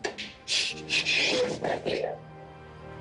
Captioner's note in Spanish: Sollozos